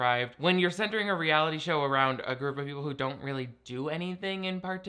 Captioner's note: none